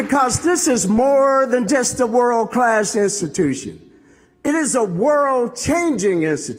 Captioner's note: applause